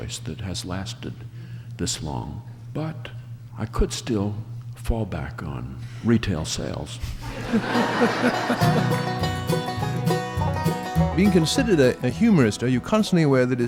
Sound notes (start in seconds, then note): 7.2 laughing